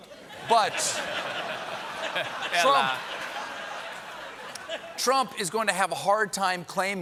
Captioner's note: laughter